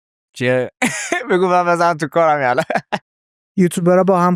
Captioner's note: laughs